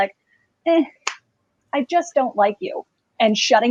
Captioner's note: claps